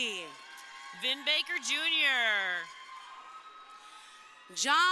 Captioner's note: crowd cheering